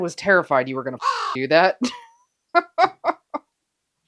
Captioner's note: caw